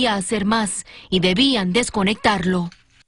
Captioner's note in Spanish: hablando en inglés